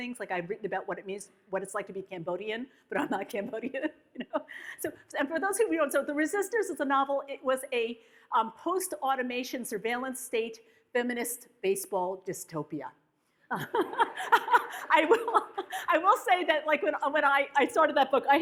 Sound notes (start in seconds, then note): 13.5 laughs; 13.6 audience laughs